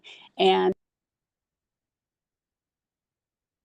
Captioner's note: audio cut out